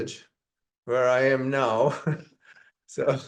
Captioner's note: laughs